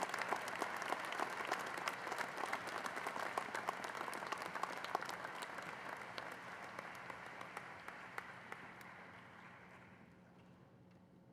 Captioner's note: cheers and applause